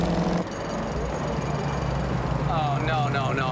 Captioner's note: jackhammer clinking